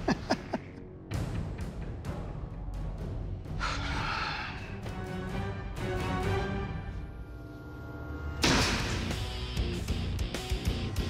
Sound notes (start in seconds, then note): 3.6 sighs